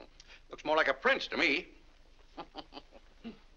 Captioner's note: chuckles; laughs